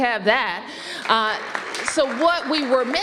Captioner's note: applause